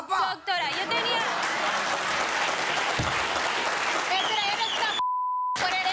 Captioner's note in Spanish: aplausos; risas